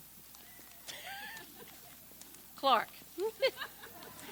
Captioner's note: laughs; group laughs; people laugh